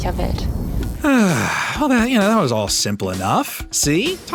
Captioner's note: sigh